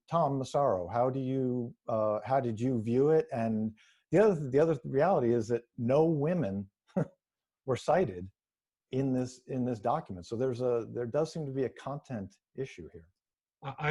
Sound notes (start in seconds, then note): 6.9 chuckles